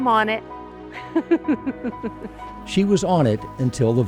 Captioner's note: laughs